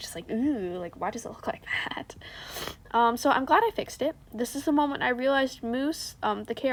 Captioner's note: sniff